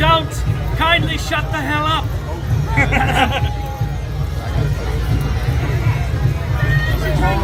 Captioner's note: laughs